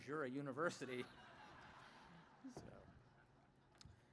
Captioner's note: laughter